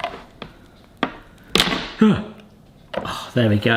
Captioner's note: tin base banging